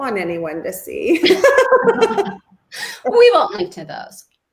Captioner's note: both laugh